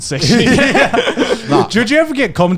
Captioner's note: laughing